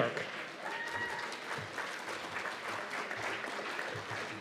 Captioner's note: cheers and applause